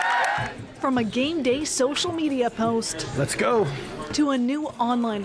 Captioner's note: cheers and Applause